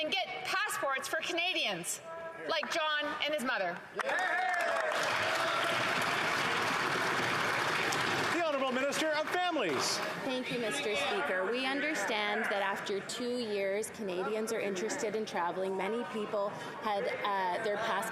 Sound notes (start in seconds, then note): 7.8 applause